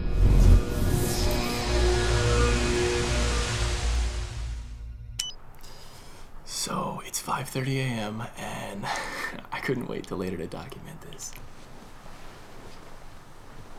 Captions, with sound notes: (buzzing sound) (beep) So, it's 5:30 AM, and - I couldn't wait till later to document this (sheets rustling)